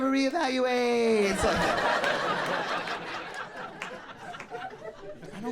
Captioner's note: audience laughing